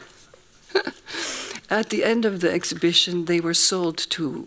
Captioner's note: laughs